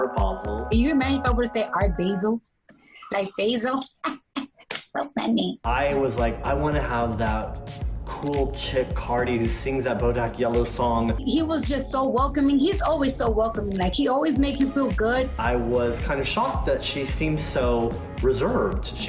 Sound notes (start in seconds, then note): 2.8 laughs